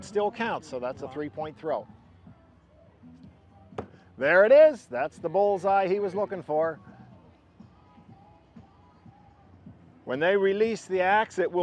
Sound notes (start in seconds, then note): 3.7 axe thuds